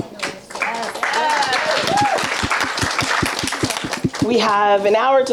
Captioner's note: audience applauding